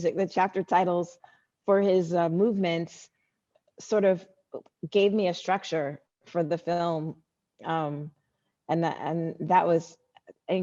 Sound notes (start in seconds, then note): none